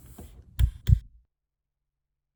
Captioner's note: light switch clicks